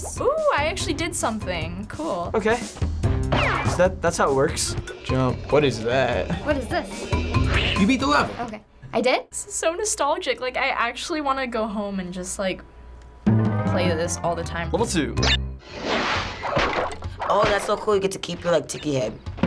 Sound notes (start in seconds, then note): 15.6 swoosh; 19.2 mutters